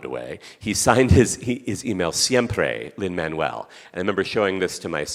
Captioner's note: speaking Spanish